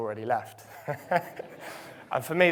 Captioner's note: crowd laughing